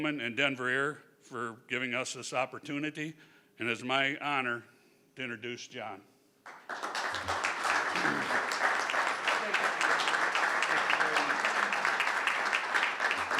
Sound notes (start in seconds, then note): 6.4 crowd clapping